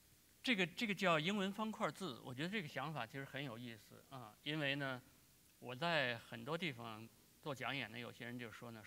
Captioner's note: speaking in Chinese